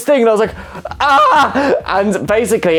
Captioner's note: screams